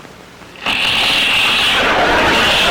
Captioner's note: loud crunching; audience laughter